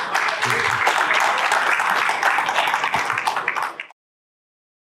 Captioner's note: audience clapping